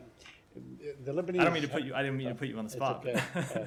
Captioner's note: laughter